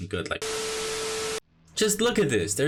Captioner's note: TV Static